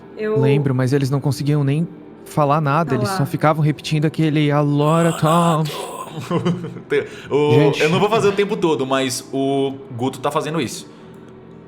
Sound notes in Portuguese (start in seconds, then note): 4.8 gemidos; 6.1 risos